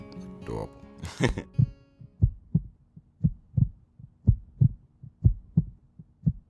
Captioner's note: mumbles and laughs; heart beats